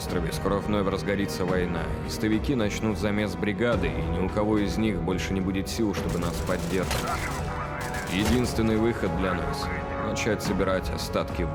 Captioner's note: speaking non-englis langue